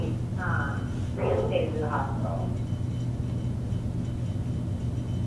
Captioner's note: dog barkinging